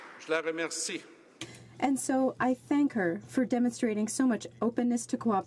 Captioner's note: applause